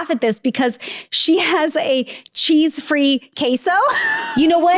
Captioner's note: laughs